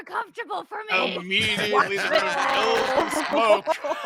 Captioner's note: laughs